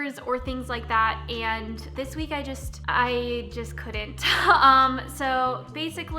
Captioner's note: chuckling